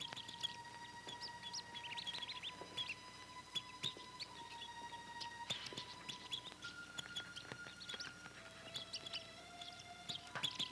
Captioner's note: birds chirping